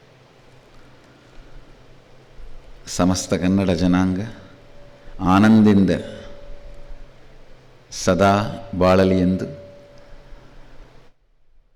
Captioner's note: Swamiji speaking in Kannada